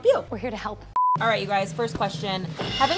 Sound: beep

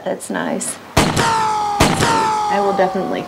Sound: shots firing

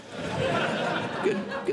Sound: audience Laughing

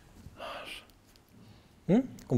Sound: whispering

